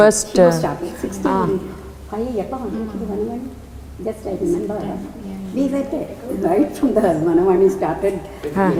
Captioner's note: indistinct Chatter